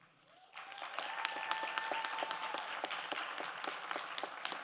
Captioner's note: crowd applauding